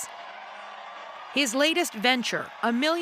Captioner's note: cheers